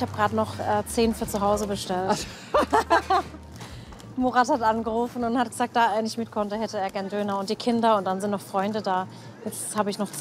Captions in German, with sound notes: Ich hab grad noch zehn für zu Hause bestellt. (Lautes Lachen) Murat hat angerufen. Da er nicht mitkonnte, hätte er gern Döner. Und die Kinder. Und dann sind noch Freunde da.